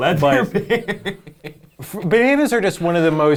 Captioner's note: laughing